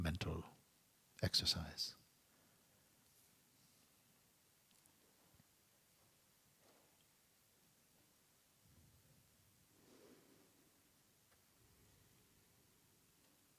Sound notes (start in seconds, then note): 3.0 silence